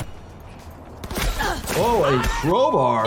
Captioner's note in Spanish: golpe de armas; balazos